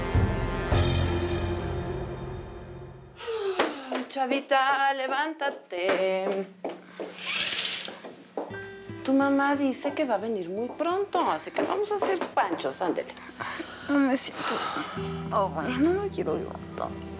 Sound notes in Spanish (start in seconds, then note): 7.1 ruido al correr las cortinas